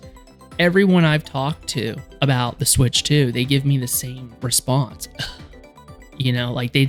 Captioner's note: sighs